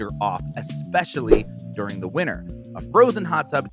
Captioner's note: air whooshes